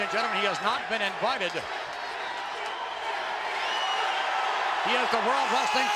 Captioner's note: applause